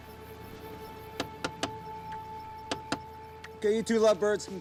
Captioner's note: flashlight tapping